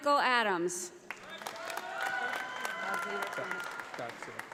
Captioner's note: audience applauding